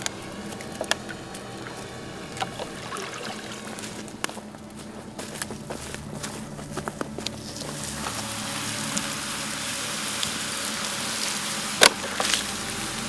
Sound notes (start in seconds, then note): 7.5 fire sizzles out